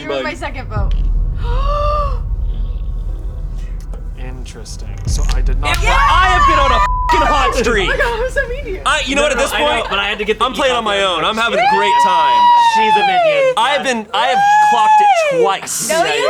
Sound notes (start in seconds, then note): 1.3 gasping; 6.8 beep